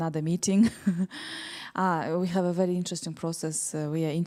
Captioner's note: chuckles